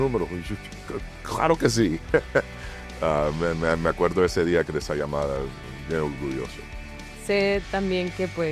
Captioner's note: laugh